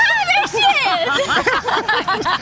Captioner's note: laughing